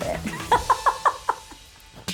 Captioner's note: laughs